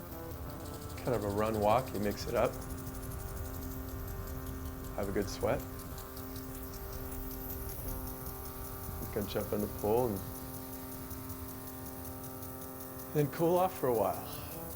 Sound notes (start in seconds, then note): none